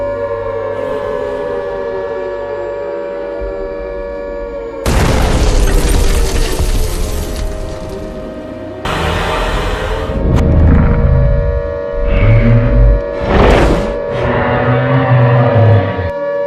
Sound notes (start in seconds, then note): 4.8 loud explosion; 8.4 Godzilla growling